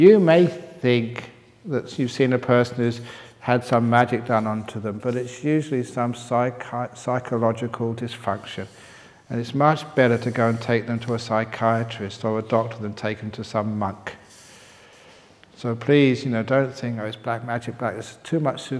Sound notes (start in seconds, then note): none